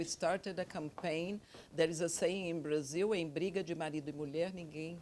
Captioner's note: speaks Portuguese